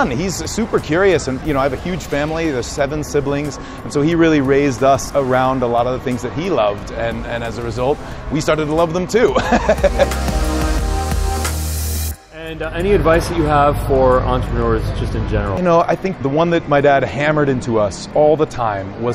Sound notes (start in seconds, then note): 9.3 laughs